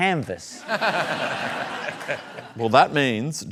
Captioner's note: laughter